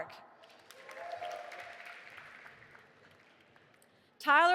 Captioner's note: audience applauding